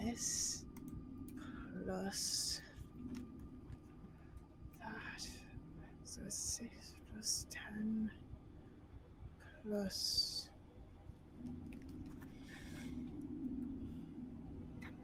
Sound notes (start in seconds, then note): 3.3 air whooshing